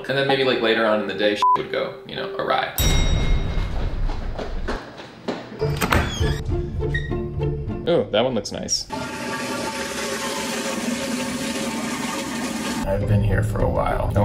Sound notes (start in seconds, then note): 1.4 beep; 3.5 footsteps pounding; 8.9 toilet flushing